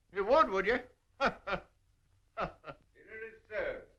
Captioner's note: laughing